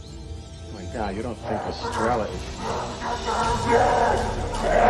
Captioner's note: growling